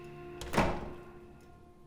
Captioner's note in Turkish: Kapı kapanma sesi